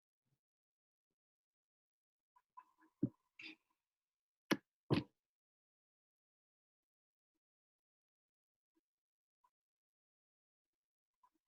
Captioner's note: silence